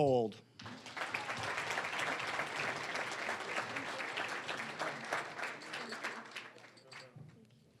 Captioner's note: applause